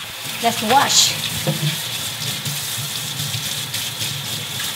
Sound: water flowing

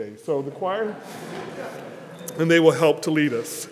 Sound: congregation laughs

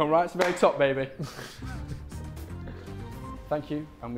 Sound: Vikram chuckling

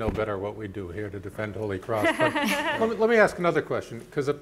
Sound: panelist laughing

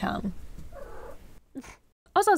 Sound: lazy cat sounds

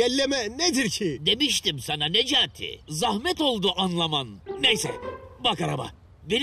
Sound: rhymed in turkish; rhymed in turkish

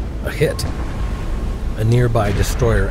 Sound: torpedoes exploding

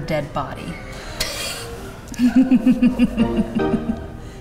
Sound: laughing

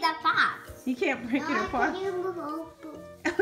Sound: voiceover

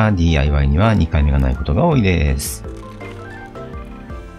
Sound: laughs

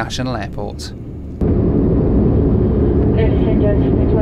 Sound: plane engine roaring

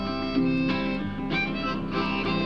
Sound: engine rumbles

